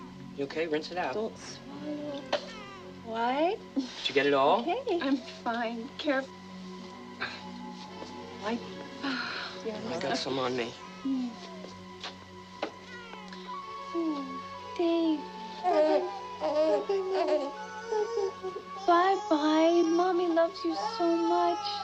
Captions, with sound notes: - You okay? Rinse it out. - Don't swallow. All right? - Did you get it all? - Okay? I'm fine. Careful.. - All right. - I got some on me. - Oh, baby. [baby fusses] Baby, baby, baby. - Bye, bye. Mommy loves you so much.